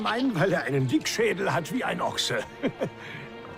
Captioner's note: laughs